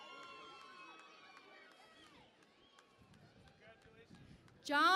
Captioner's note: cheering and Applause